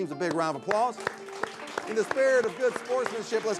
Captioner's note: audience clapping